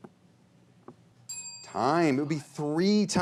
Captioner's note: bell chimes